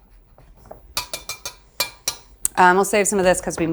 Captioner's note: glass clanging